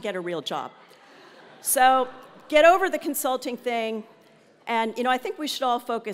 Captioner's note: laugh